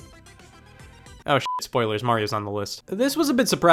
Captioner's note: beep